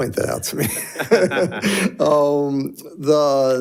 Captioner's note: person laughing